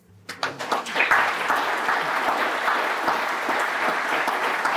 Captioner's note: applause